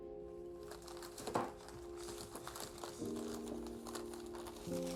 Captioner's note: paper rustling